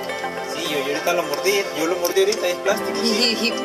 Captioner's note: non-english speech